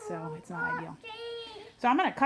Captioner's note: child whining